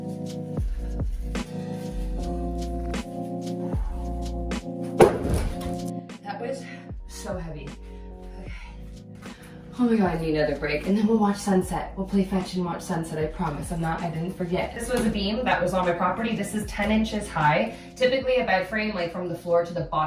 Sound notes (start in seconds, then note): 0.2 pleasant music; 4.9 wood thuds